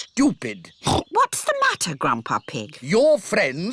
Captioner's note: oinks